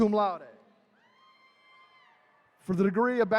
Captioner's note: attendees cheering